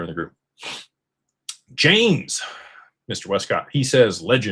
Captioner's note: snorts